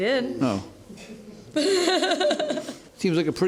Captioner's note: laughter